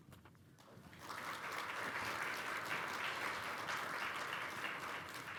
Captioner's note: applause